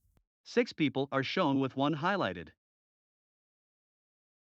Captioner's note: voiceover